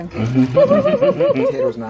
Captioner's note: laughter